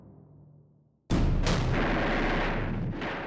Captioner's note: gunfire